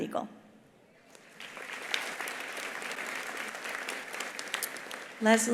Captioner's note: attendees applauding